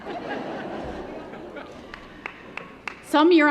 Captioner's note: laughter; applause